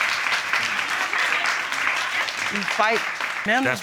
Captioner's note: applause